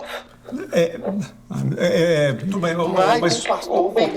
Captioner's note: stammering